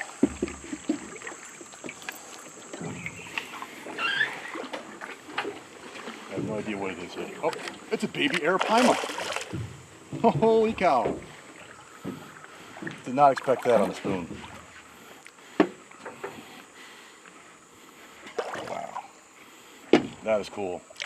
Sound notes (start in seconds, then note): 4.5 creaking; 10.5 fish splashing